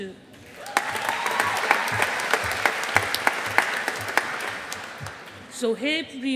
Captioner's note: audience applauding